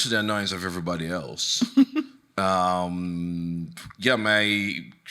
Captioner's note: chuckling